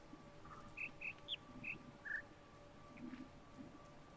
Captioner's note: bird chirps five notes